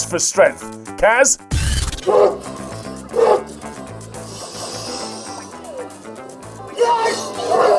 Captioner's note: pain sounds